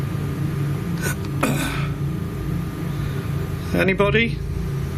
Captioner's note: clearing throat